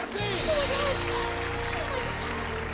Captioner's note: loud applause